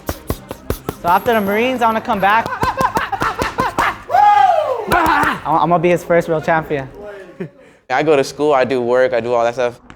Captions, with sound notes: So, after the Marines, I want to come back. (shouting) (mitts boxing) I'm going to be his first real champion. - I go to school, I do work, I do all that stuff.